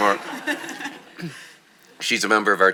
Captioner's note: audience laughing